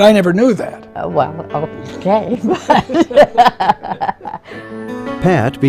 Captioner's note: laughs